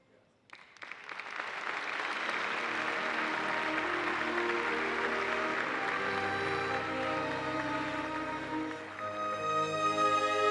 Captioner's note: applause; orchestral music playing